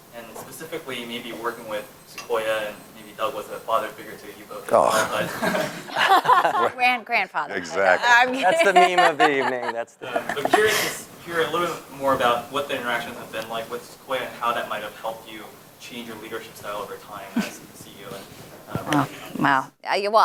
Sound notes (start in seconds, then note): 4.9 laugh